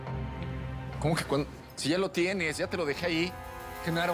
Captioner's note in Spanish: none